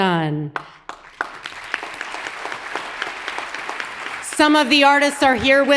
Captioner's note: audience applauds